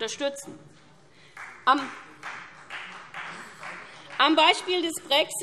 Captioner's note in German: Vereinzelter Beifall Freie Demokraten